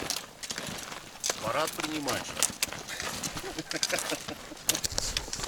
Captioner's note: laughs